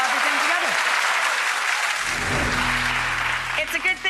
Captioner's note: audience clapping